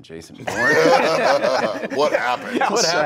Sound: laughing

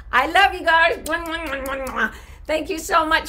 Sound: kissy smacks

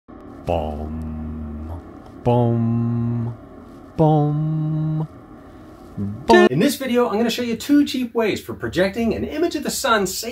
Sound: humming

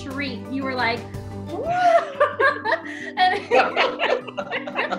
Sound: all laugh

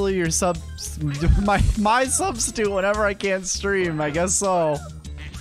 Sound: stutters

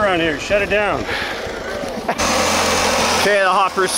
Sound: laughing

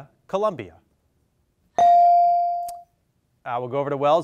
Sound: bell dings

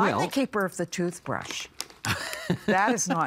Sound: laughing

